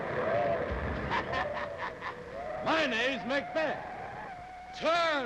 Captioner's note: laughs